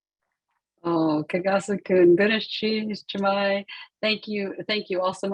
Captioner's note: speaking in Native language